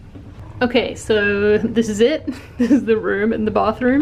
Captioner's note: giggles